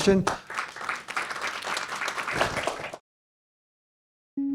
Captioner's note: attendees applaud